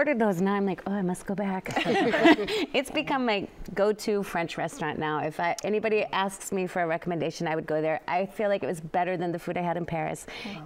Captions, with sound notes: AND NOW I'M LIKE, "OH, I MUST GO BACK." [ LAUGHTER ] IT'S BECOME MY GO-TO FRENCH RESTAURANT NOW. IF ANYBODY ASKS ME FOR A RECOMMENDATION, I WOULD GO THERE. I FEEL LIKE IT WAS BETTER THAN THE FOOD I HAD IN PARIS.